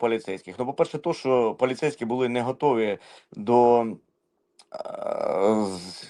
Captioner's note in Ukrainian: сопіння